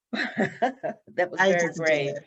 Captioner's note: laughs